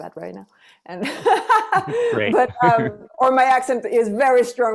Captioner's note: laughs